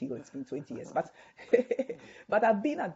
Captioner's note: chuckles